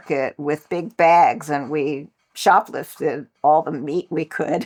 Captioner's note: laughs